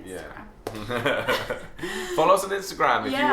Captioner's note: laughing